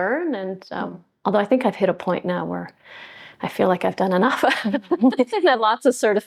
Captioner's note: laughs